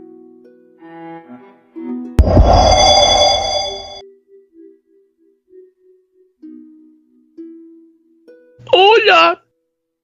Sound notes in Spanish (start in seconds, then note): 2.2 Sonido de Teletransportacion pequeña